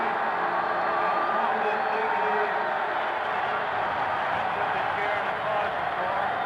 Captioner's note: cheering continues